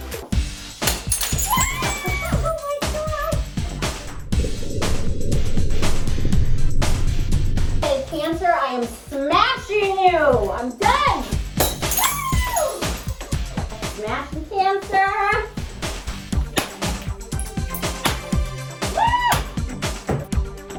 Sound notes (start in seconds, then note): 0.3 upbeat music; 0.8 glass breaking; 1.4 screams; 3.5 air whooshing; 11.5 glass shattering; 12.0 screams; 16.4 screaming; 16.5 loud bat cracking